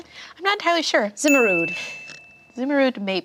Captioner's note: bell dings